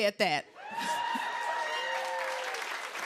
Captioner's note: cheers and applause